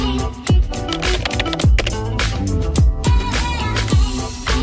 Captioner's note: upbeat hip hop music; keyboard clicking